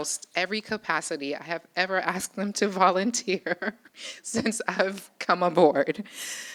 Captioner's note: chuckles